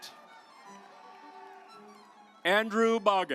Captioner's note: audience applauds